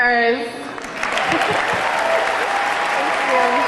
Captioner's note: audience clapping; audience cheering